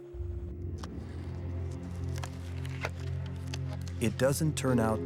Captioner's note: gloves snapping